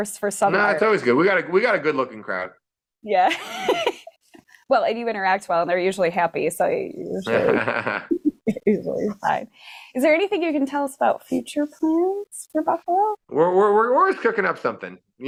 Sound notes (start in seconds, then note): 3.3 laughing